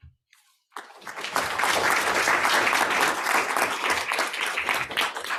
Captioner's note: students applauds